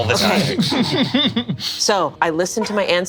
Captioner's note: laughs